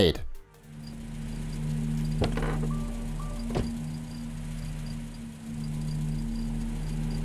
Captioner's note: crickets chirping; engine purring